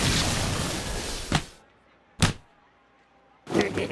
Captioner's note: splat